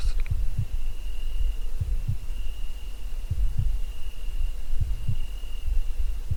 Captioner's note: insects chirping; heart beats